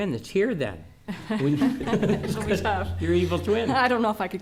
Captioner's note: laughing